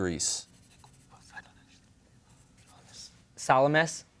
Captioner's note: team whispering